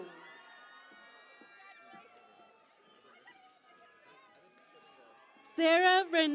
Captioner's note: cheering and Applause